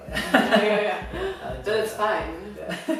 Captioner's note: laughs